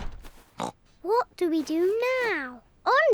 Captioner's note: oinks